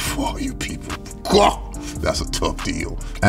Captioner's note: man shouts